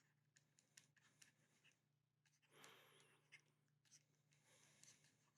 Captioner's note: pen scratching